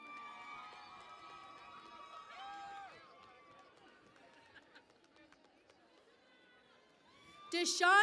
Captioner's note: cheering and Applause